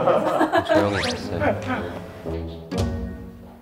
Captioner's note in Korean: 하하하하